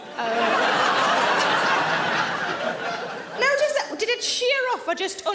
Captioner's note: audience laughs